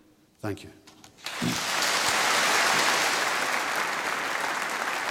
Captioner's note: applause